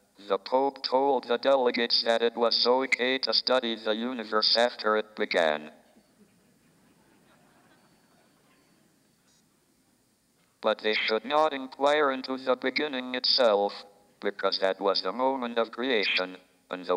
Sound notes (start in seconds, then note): 6.2 audience laughs